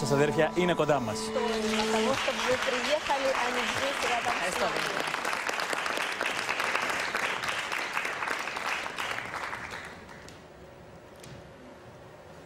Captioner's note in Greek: χειροκρότημα